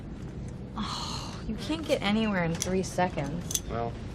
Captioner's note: sighing